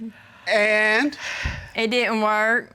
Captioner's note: judge sighs